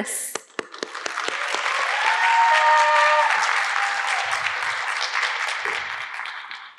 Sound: audience cheering and applauding

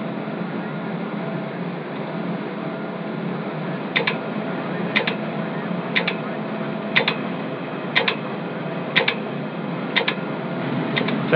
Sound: clicking Noise

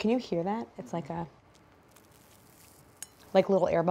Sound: cake crackling

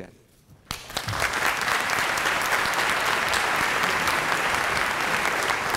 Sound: applause

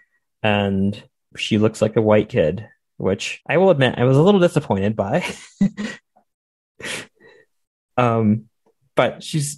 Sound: laughter

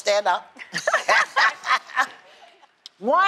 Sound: laughter

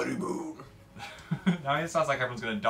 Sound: laughs

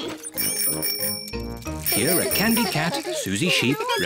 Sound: giggles; bicycle bells tinkle

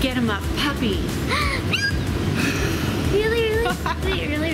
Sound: gasp

